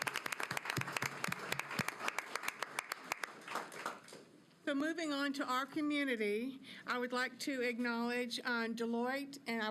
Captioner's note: applause